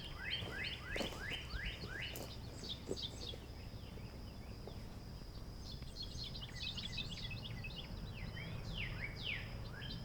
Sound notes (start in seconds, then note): none